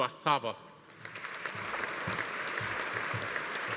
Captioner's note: audience applauding